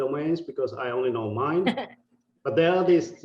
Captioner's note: laughing